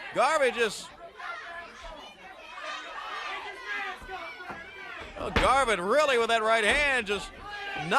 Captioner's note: crowd chatter